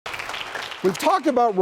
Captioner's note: audience applauding